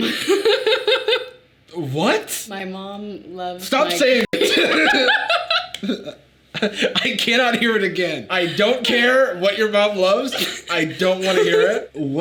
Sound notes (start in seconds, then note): 0.0 Sadie laughing; 4.2 beep; 4.3 both laughing